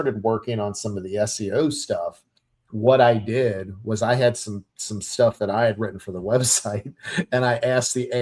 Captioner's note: chuckles